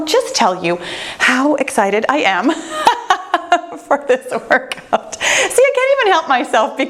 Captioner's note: laughing